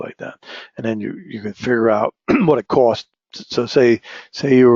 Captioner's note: cough